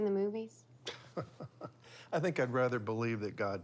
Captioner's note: chuckles